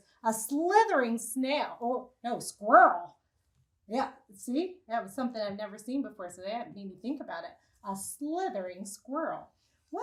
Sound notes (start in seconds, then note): none